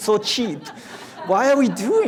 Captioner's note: audience laughs